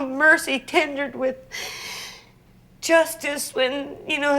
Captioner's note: tearful inhale